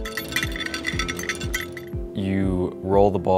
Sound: bells jingling

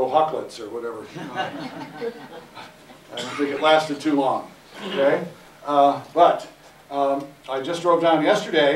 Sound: laughter

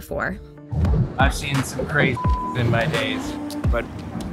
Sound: beep

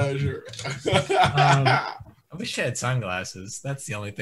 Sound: laughs

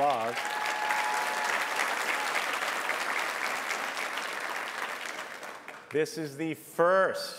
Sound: applause

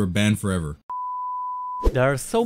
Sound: beep

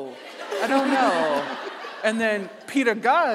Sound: audience laughing

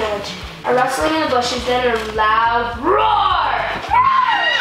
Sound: screeches

